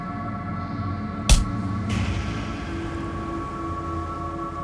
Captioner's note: smacking